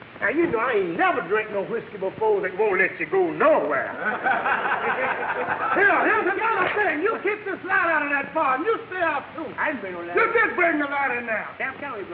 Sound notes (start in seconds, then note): 3.9 audience laughing